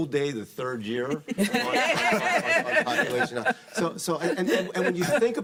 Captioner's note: panelists laughing